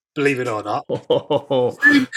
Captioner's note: laughter